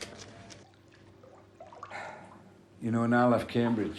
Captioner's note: water trickling